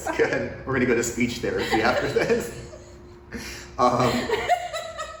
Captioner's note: laughs